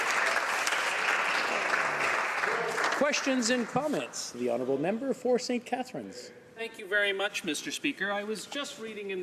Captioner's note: some Applause